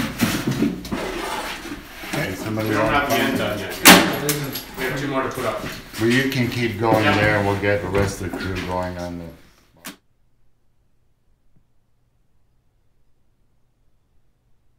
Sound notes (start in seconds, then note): 5.1 background discussion with crew